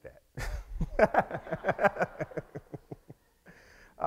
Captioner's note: laughs